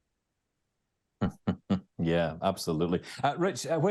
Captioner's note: chuckles